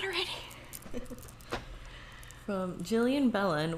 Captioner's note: laughs